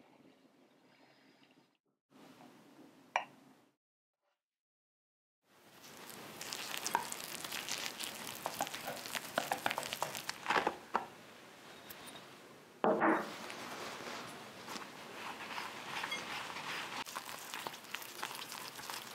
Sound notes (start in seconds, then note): 10.7 crape crunch